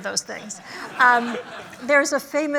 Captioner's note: laughter